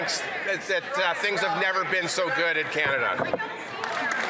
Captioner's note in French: voix de l'interprète